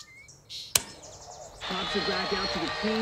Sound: click

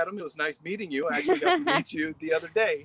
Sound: facilitator laughing

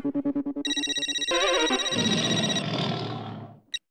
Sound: phone ringing

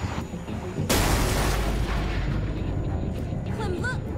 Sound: car crashes

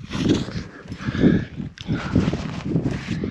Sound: heavy breathing

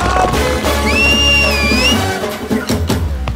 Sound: whistles

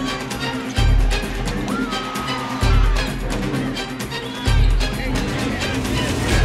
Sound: cheers and applause

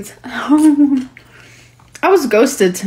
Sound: giggling

